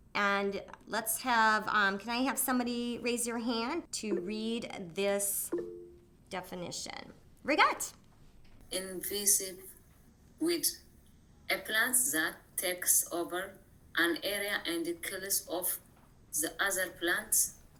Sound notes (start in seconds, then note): 5.4 screen beeps